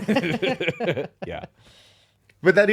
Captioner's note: laughing